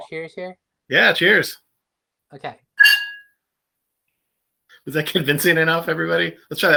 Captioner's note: clinking glasses